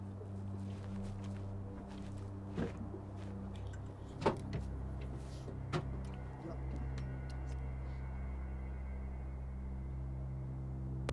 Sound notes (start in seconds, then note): 3.7 door clunks